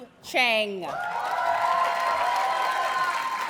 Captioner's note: audience cheers and applauds